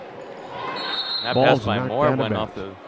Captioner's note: whistle blows